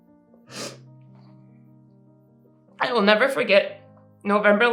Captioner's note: sniffling